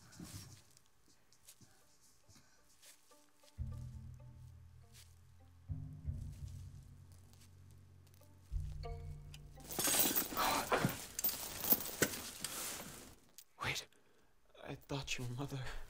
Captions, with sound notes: *chain sounds* Wait.. I toughted you were mother